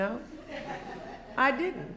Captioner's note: laughter